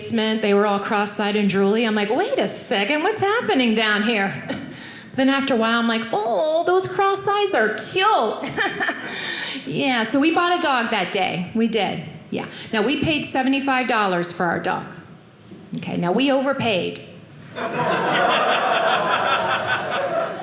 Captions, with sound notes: They were all cross-eyed and drooly. I'm like, wait a second, what's happening down here? Then after a while I'm like, oh, those crossed eyes are cute. Yeah, so we bought a dog that day. We did. We paid $75 for our dog. OK, now we overpaid-- (audience laughing)